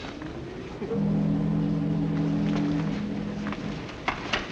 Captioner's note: ships horn blowing